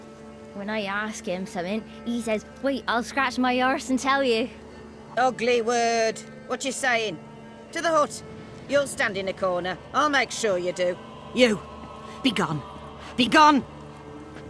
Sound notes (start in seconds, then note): 5.2 sternly